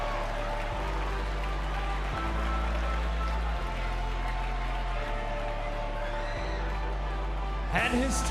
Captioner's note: crowd cheering